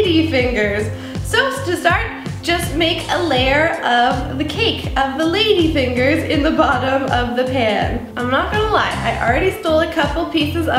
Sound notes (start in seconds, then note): none